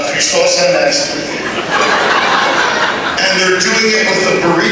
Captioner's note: laughter